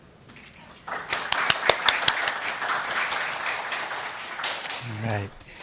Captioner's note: audience applauds